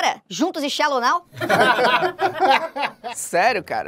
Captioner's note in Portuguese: risadas